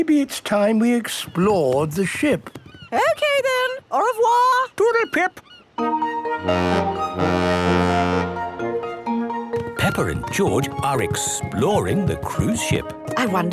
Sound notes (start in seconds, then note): 5.8 boat horn honking